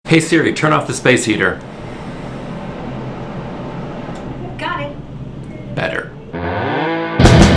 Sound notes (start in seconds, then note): 2.2 loud roar of industrial machinery; 6.4 loud rock music